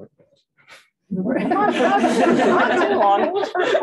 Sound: laughter

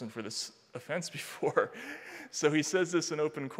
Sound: chuckling

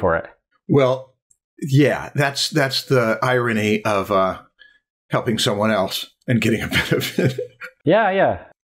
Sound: laughter

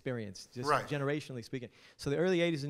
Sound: voiceover

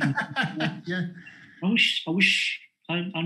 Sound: laughs

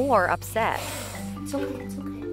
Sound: hissing

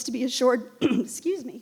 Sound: clears her throat

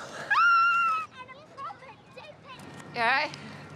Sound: excited squealing

